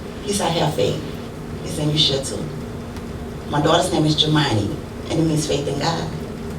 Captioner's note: none